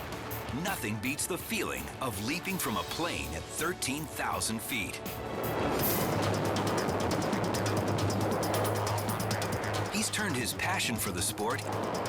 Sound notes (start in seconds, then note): 4.9 dramatic music; 5.1 air swooshing